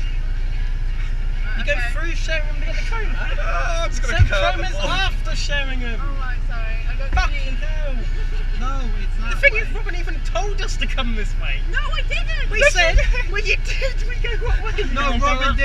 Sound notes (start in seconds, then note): 4.0 crys; 13.6 every thing muffles as everyone stars talking